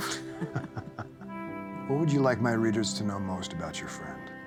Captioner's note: chuckling